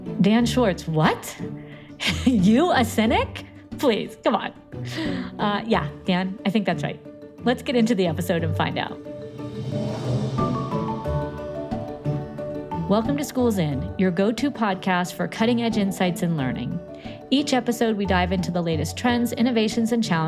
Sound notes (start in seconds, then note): 2.0 chuckling; 10.4 upbeat music